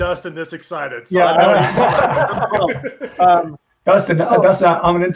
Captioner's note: all laughs